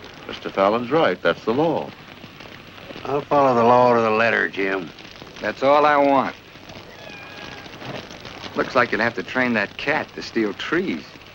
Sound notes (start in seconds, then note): 6.8 cat meows